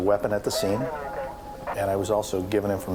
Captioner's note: radio chattering